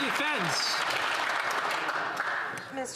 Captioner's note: some Applause